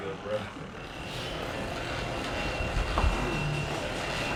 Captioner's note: machines whirring